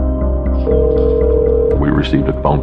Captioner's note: phone ringing